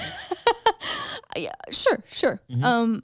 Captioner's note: laughs